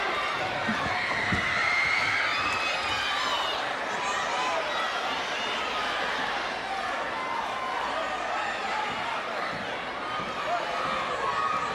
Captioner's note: crowd chatter